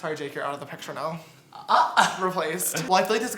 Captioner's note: gasps